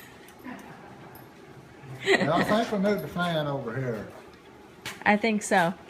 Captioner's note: laughs